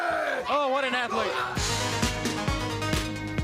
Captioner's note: crowd chatter